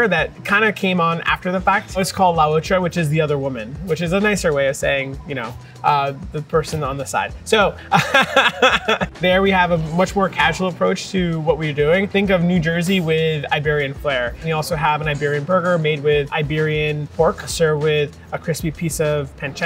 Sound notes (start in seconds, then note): 7.8 laughs